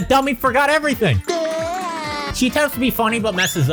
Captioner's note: springy sound effect